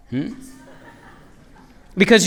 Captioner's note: laughter